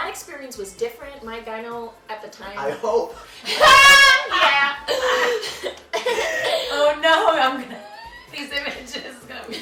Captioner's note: laughter